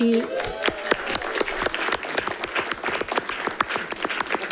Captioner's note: audience applauding